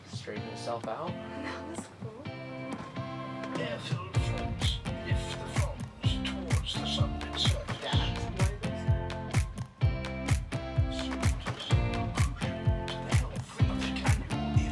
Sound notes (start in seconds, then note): 4.3 movie playing in background; 4.3 upbeat music